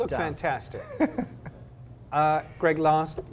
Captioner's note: laugh